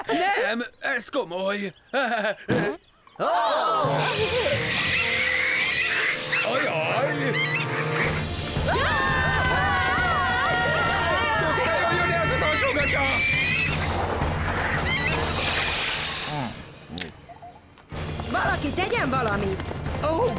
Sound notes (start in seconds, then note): 2.0 chuckles, farts; 4.0 birds shrieking; 8.5 screaming; 12.3 birds shrieking